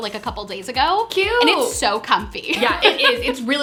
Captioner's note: laughs